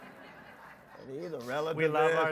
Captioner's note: audience laughs